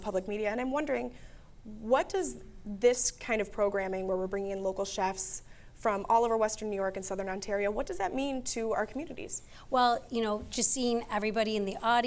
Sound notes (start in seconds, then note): none